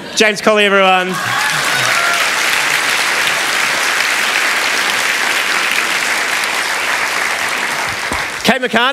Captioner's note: applause